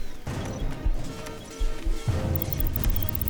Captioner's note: monitor beeps